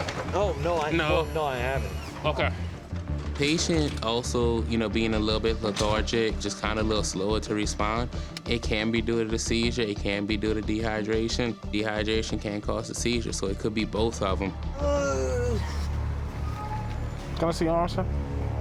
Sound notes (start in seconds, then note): 14.7 groans